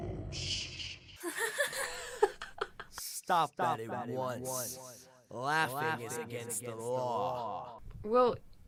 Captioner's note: MILO laughs